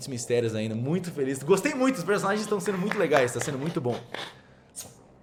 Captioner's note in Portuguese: palmas